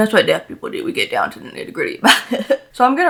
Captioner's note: laughs